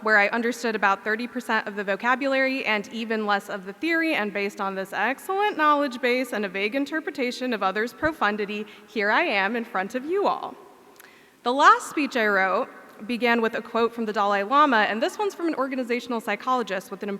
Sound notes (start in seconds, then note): none